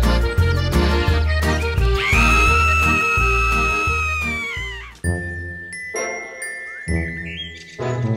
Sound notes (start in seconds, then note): 1.9 screaming